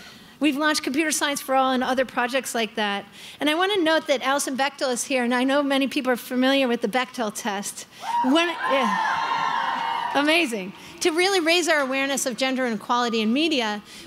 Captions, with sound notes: We've launched Computer Science For All and other projects like that, and I want to note that Alison Bechdel is here, and I know many people are familiar with the Bechdel test. (crowd cheering) Amazing. To really raise our awareness of gender inequality in media,